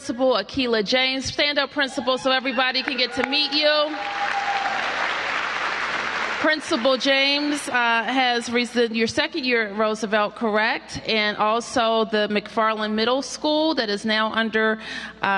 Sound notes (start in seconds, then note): 2.6 applause